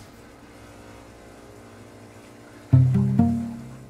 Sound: machine buzzing

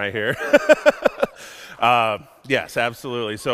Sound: everyone laughs

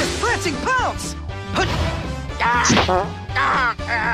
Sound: frrt

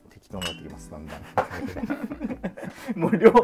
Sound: laughing

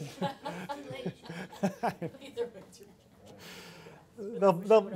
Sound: laughter

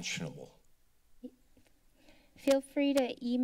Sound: silence

